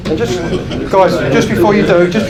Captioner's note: laughing